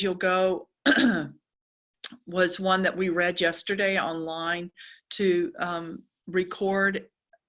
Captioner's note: cough